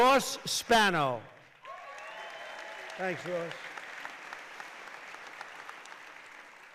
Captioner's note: applause